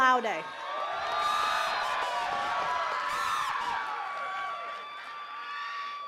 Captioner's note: attendees cheering and clapping